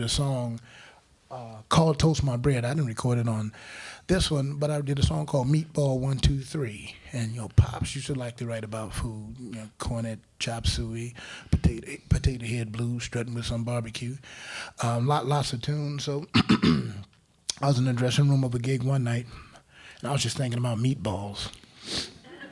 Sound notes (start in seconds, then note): 16.3 clears throat; 22.2 crowd laughing